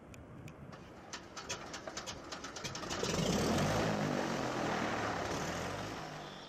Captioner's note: background - Engine & Propellors